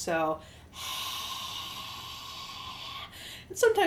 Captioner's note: loud exhale